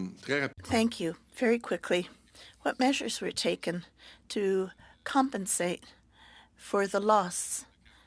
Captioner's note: speaking French